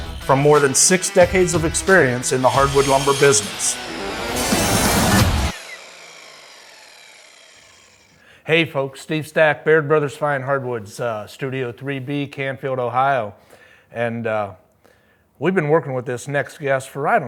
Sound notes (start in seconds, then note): 4.1 logo whirring; 4.1 upbeat rock music